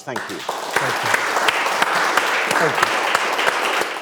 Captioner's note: audience clapping